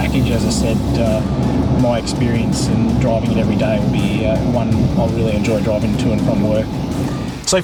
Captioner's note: car